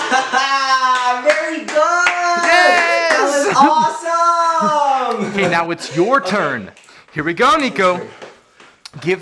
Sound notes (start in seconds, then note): 2.4 laughs